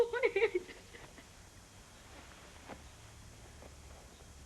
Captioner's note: sobbing